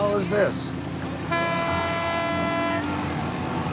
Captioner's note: honking